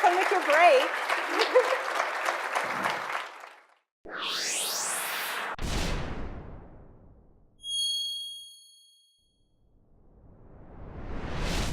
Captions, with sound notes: Have fun with your break (laughs). (electronic chiming)